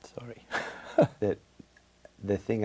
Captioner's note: chuckles